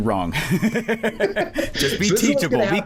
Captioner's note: laughter